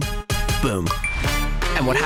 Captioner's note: iphone chimes